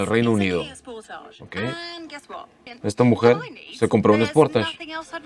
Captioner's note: woman speaking in English